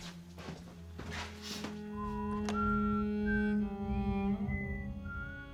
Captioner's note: whistling